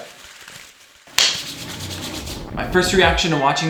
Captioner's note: light clap